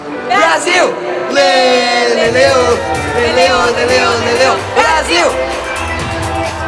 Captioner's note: cheer